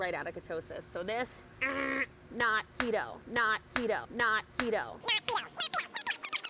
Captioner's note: makes beeping noise; record whirring